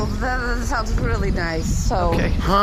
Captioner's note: voice shaking wildly